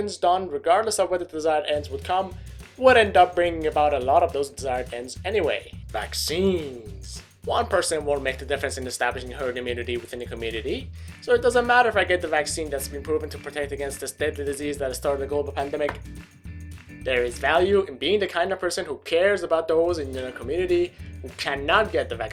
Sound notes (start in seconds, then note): 19.4 slap